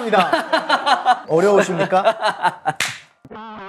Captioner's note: politely